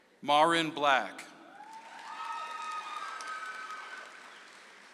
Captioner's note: audience applauds